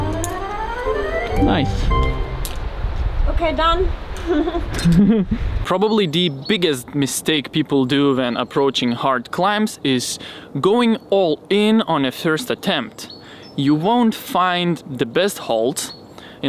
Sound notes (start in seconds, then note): 4.2 laughs